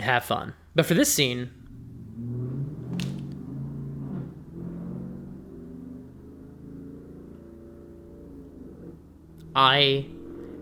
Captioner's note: loud car drives past